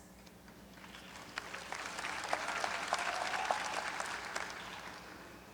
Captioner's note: graduates applaud